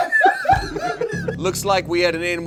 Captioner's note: all laughing